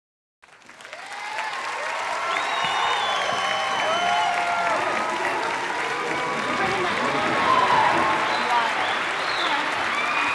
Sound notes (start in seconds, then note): 0.4 crowd Cheers And Applauds